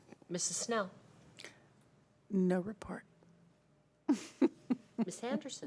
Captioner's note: chuckling